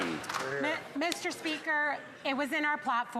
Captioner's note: some Applause